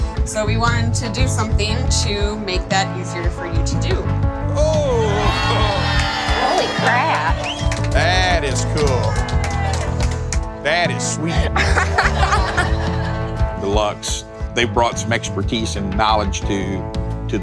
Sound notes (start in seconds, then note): 4.6 cheering; 10.7 people laughing